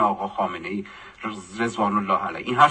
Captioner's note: in Arabic